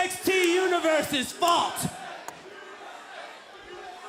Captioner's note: fans chanting